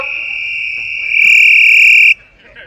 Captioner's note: whistle